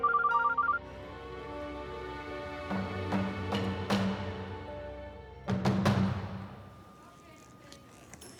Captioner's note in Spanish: Suena el celular